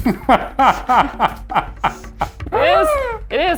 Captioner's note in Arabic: يضحك إيفان